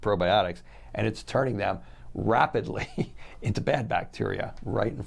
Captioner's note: chuckles